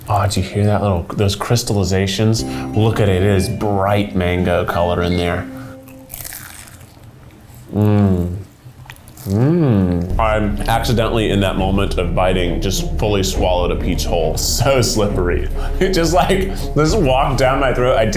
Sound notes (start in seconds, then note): 6.1 crunching; 15.0 suspenseful music